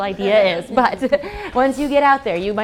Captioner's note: laugh